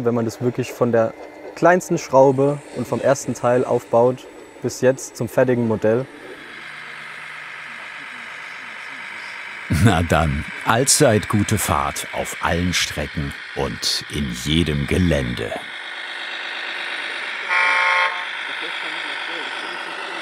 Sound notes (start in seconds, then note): 6.6 engine noises; 15.8 engine noise; 17.5 honking